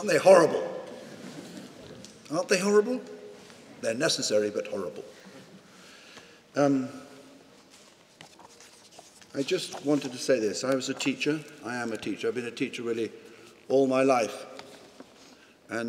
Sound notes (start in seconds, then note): 7.6 papers rustling